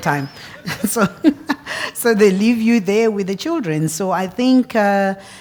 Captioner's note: laugh